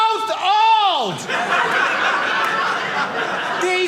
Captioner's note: audience laughing